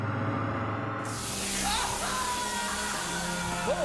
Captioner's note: industrial surgery sounds + screaming